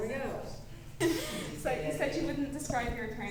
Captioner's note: laughs